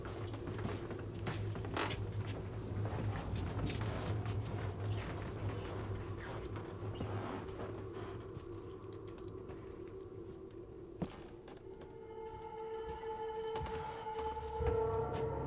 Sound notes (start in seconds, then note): 13.4 creaking floor sound